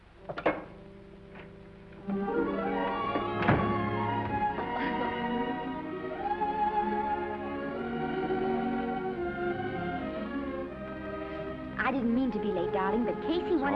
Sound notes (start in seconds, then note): 0.3 gentle music; 4.5 Esther giggles; 5.9 gentle music